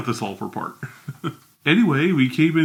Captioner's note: chuckles